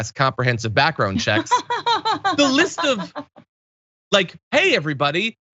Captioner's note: laugh